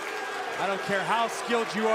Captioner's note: crowd cheering